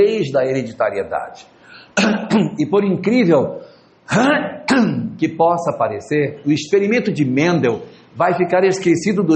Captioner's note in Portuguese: limpando a garganta